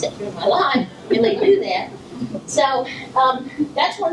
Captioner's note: laughter from audience